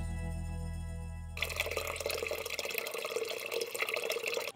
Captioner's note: water burbling